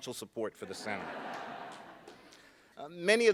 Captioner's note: laughing